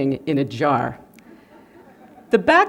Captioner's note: laughter